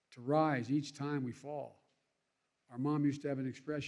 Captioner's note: none